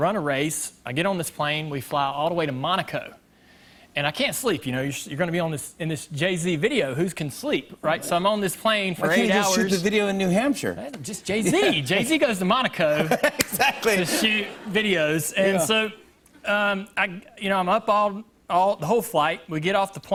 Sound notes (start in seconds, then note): 12.8 laughter